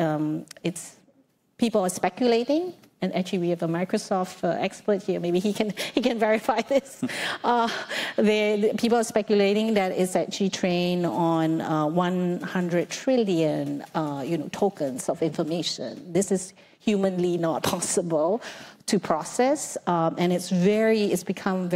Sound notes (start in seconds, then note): 7.1 laughs